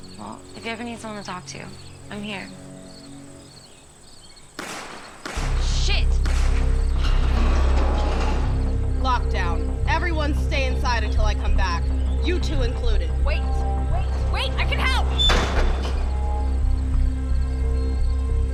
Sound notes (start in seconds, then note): 4.5 gun shots; 7.4 dramatic music; 15.0 barn door slams